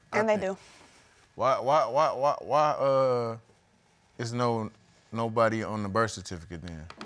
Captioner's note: stammering